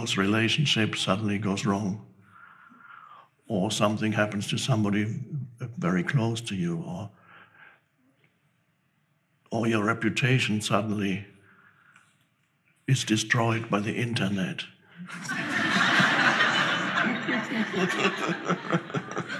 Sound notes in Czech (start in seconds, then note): 15.0 diváci se smějí